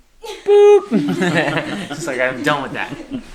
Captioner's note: laughing